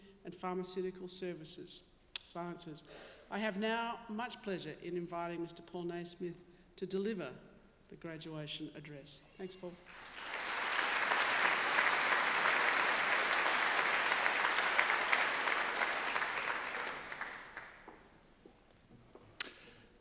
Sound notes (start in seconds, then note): 9.8 audience clapping